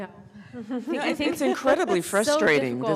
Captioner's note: panelists laughing